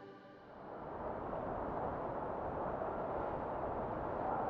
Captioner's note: wind blowing